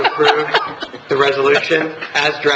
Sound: laughing

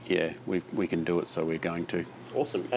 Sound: none

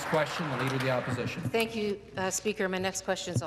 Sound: some Applause

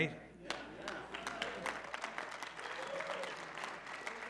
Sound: applause

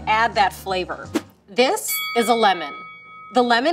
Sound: bell dings

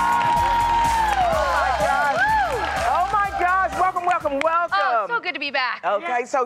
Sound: cheers and applause

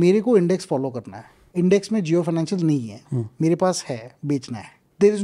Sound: speaks in Hindi

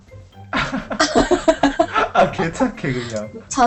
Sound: laughter

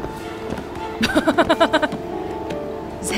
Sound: laughs

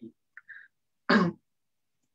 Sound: coughs

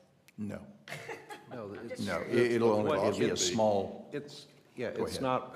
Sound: laughter

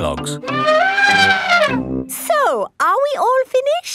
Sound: trumpeting

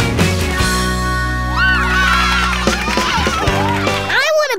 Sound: cheering

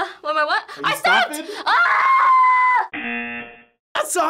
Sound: buzzer

